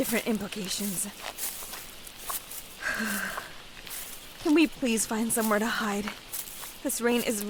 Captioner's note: shivers